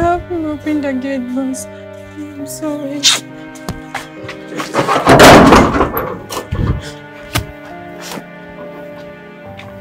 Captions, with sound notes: no no help me open the gate boss I'm sorry [ DOOR OPEN ]